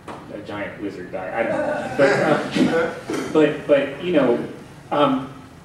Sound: laughter

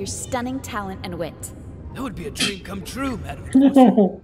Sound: scoffs; laughing

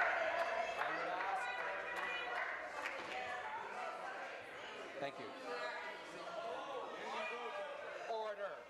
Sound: shouting

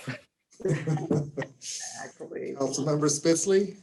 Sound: all laughing

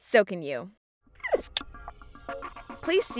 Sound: squirrel squeaks in protest

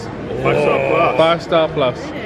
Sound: exclaims

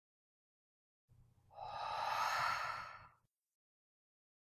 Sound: ghostly sigh

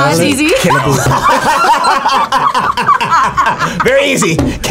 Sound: both laugh

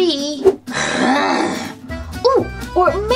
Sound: zombie Growling

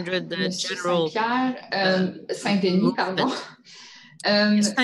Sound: speaking French

